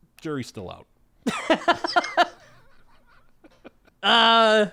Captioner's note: both laughing